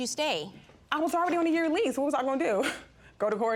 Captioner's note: laughs